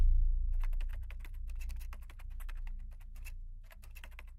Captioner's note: keyboard clicking